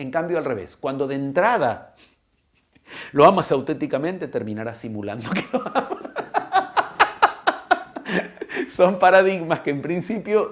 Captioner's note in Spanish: risas